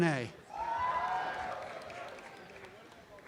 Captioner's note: applause and cheering